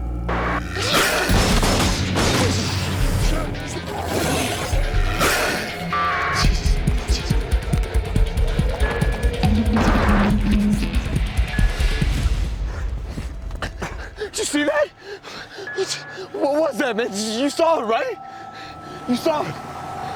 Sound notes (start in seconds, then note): 0.4 growling; 0.8 gunshots; 4.2 growling